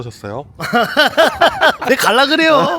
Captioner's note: laughs